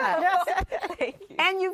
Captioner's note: laughter